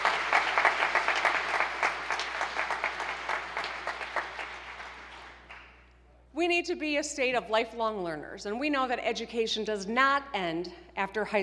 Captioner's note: applause